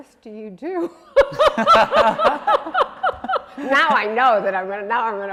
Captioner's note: laughing